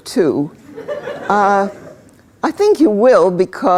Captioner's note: laughter